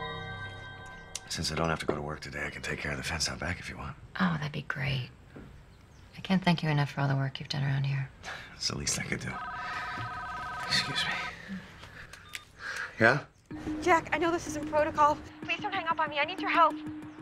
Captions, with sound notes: Since I don't have to go to work today, I can take care of the fence out back if you want. Oh, that'd be great. I can't thank you enough for all the work you've done around here. - It's the least I could do. [Ringtone] [Ringtone] ...Excuse me. Yeah? Jack. I know this isn't protocol. Please don't hang up on me, I need your help.